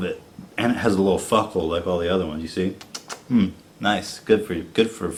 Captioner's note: kissing noises